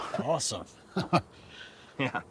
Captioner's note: laughs